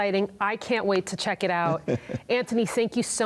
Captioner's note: laughs